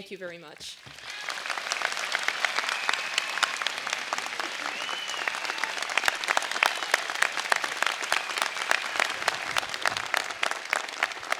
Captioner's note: applause